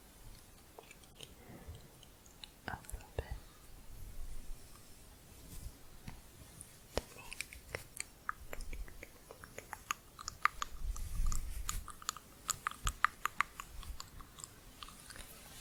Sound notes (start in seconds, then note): 3.9 stroking bristles; 8.2 tongue clicking